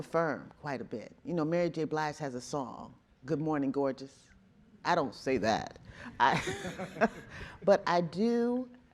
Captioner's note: chuckling